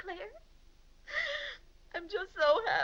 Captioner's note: sobs